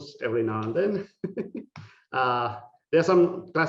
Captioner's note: laughing